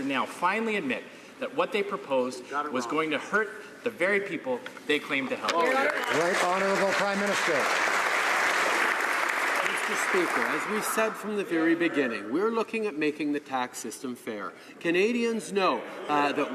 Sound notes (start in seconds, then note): 8.5 some Applause